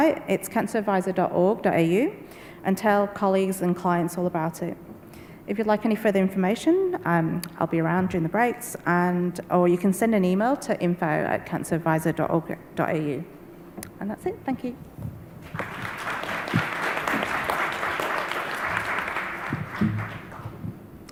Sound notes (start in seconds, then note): 15.4 audience applauds